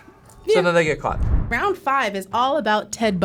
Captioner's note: animation whooshes